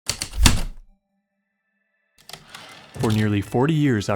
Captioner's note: typewriter clicks and slide